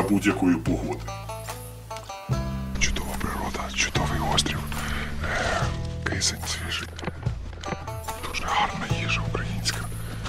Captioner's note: whispering